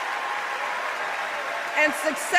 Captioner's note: applause